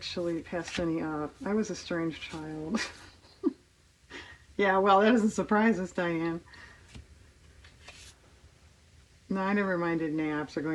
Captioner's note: laughs